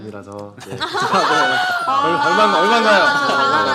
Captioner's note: laughter